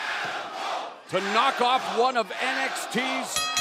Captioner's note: fans chanting